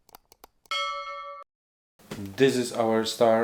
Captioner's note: bell ringing